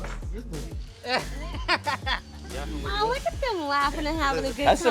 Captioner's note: laughing